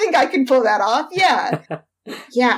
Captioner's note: laughs